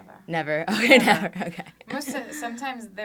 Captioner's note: laughs